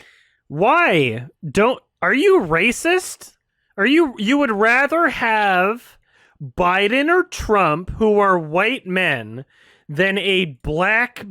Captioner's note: jokingly